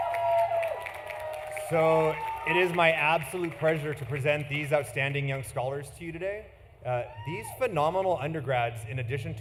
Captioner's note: cheering; applause